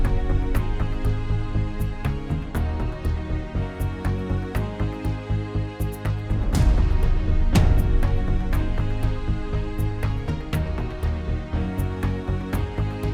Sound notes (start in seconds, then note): none